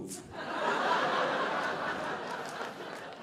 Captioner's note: audience laughing